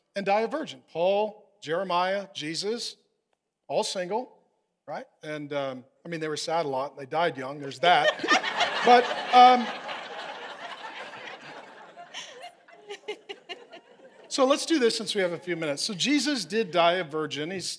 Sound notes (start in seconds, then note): 7.8 congregation laughing